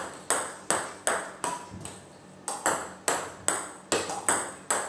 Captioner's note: ball ping pong hitting continues